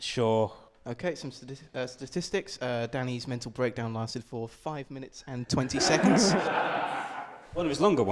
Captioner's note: laughter